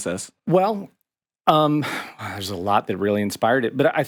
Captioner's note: sighs